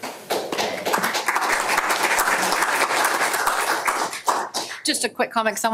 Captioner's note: audience applause